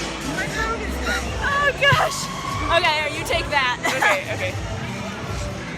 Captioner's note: laughing